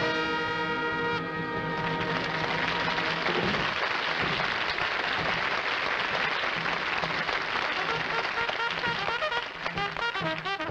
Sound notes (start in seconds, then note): 1.7 applause